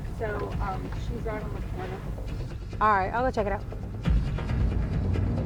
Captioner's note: none